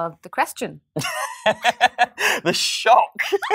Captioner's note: laughs